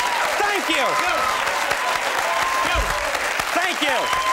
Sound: audience cheers

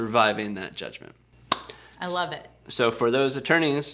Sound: hands clap

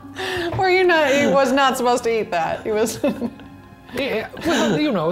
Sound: laughs

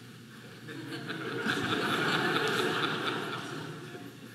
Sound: audience laughing

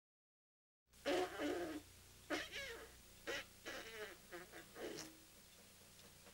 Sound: sound: sloppy kissing drumhead

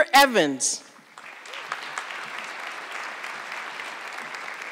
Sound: audience clapping

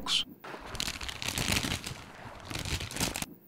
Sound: potato chip packet crackle

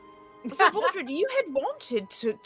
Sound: laughs

